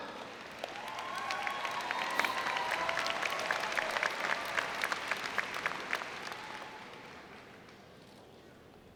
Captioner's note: cheering and Applause